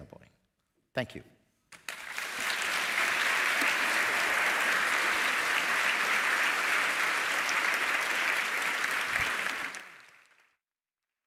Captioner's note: applause